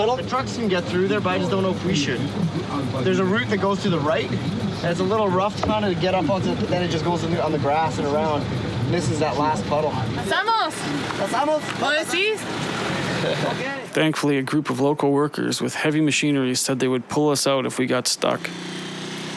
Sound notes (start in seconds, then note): 14.4 speaking In Foreign Language